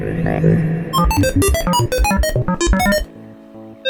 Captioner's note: beeping